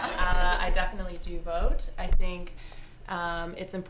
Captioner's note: laughter